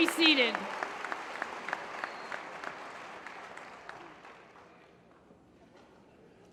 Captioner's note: applause